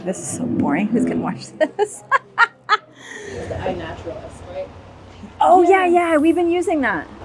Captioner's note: laughter